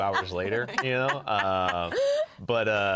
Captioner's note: laughter